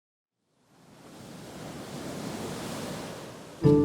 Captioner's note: gently crashing waves